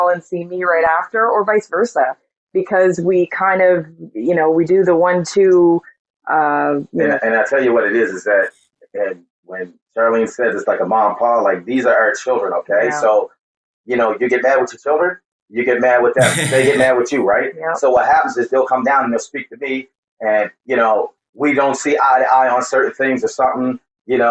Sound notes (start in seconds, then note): 16.2 laughing